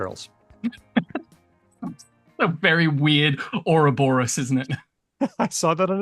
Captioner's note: laughs